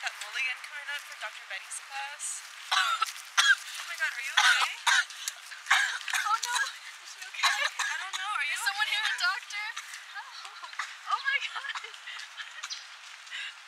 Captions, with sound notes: ...coming up for Dr Betty’s class [coughing and choking] Oh my god are you okay? Oh, no. - I don’t know - Is someone here a doctor? - [choking] - Oh my god!